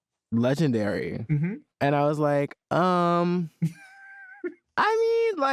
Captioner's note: laughs